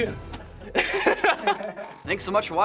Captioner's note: cracks up